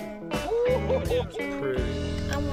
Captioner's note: person laughing